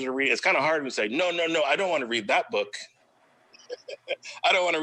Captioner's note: laughs